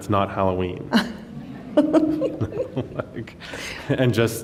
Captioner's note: laughs